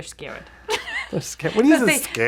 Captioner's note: laughing